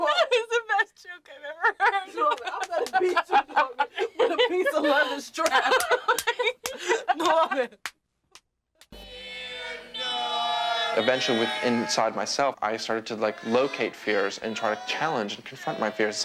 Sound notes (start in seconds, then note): 1.4 laughs; 2.6 slaps back; 5.4 taps shoulder repeatedly; 8.2 laughs